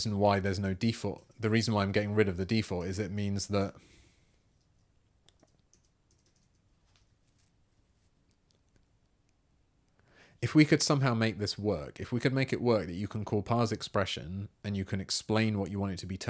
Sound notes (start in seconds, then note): 4.1 silence